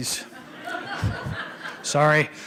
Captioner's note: laughter